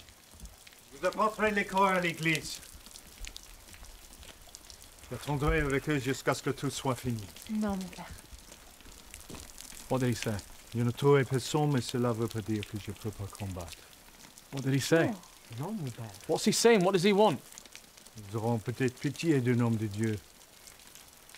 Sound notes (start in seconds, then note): 0.2 speaks in French; 6.7 Ellie speak in French; 10.1 speaks in French; 15.2 Ellie and Anatole speak in French; 17.5 speaks in French